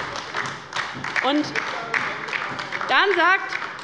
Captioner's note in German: Beifall bei der LINKEN